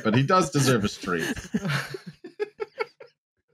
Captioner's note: very light laughter